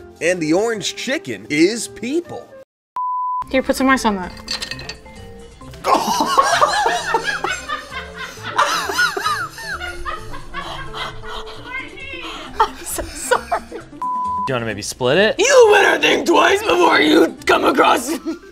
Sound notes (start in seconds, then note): 3.0 beep; 5.8 laughs; 14.0 beep